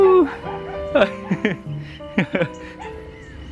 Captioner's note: laughing